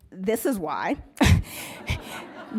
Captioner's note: laughs